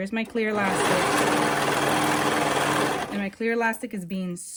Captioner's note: serger clattering